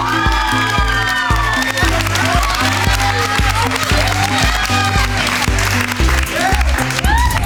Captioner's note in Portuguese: Gritos